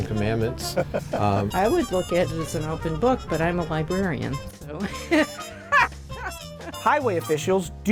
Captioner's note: laugh